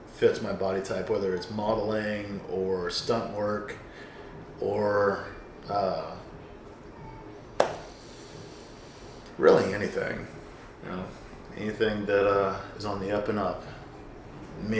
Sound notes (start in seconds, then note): 7.1 inhales; 7.6 hands clapping